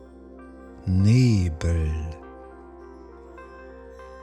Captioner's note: german